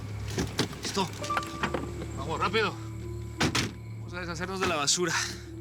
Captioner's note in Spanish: Ruidos al bajarse